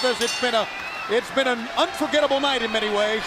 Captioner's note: bell ringing